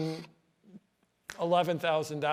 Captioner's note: snaps fingers